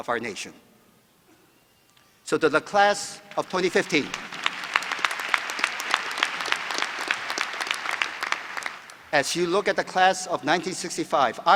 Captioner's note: applause